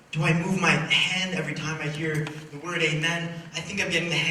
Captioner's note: none